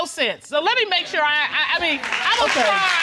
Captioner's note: stuttering